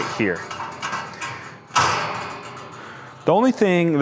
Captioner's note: metal clanging